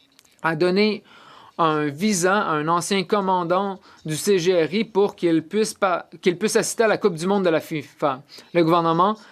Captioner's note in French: voix de l'interprète